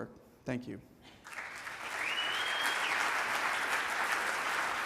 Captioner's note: audience applauds